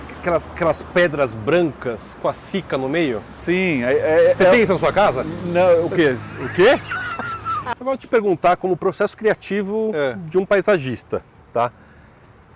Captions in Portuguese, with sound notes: - Aquelas pedras brancas com a Cica no meio? - Sim. - Você tem isso na sua casa? - Não. O quê?- O quê? (risos) Eu vou te perguntar como processo criativo de um paisagista, tá?